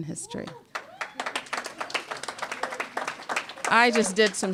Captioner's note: cheers and applause